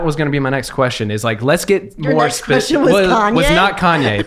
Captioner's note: laughing